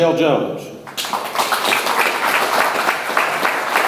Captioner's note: audience applauds